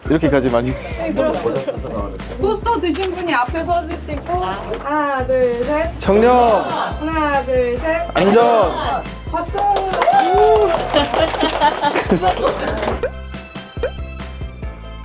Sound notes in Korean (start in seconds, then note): 9.6 환호